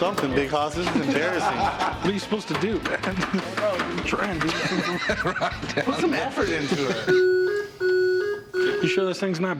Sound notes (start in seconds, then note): 1.3 laughs; 4.4 laughter; 7.0 machine plays music